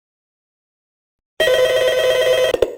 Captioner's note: phone rings; phone picks up